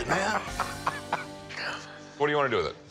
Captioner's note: laughter